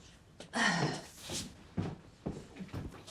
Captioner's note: sighs